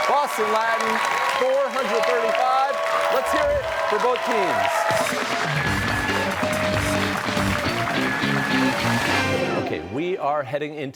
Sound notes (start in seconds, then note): 5.0 cheers and applause